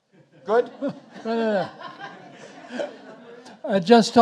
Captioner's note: audience laughing